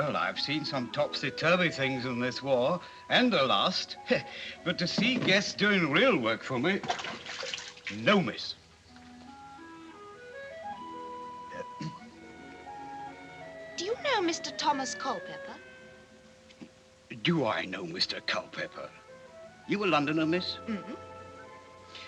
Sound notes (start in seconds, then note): 4.3 chuckles; 11.5 clears Throat